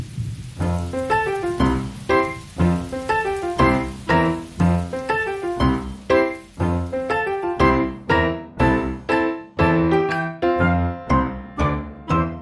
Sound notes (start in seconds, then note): 0.6 playful music; 1.5 rain